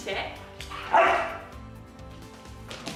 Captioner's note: dog barks